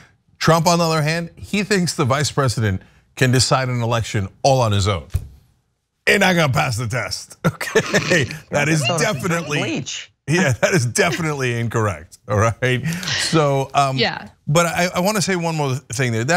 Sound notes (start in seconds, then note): 7.5 laugh